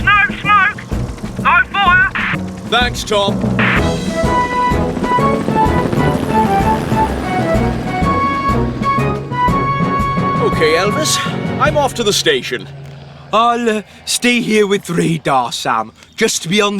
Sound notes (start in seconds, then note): 4.4 helicopter Rotors Whir; 4.4 heroic Music